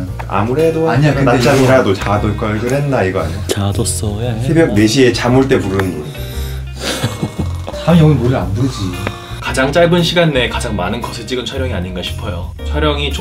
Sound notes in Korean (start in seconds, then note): 6.3 코 고는 소리; 6.8 웃음 소리